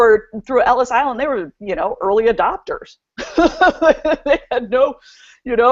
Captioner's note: laughs